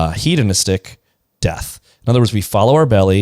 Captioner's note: none